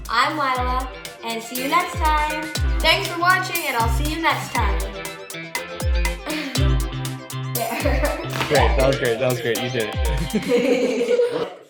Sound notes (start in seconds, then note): 5.0 upbeat music; 7.6 giggling; 10.0 friends chuckling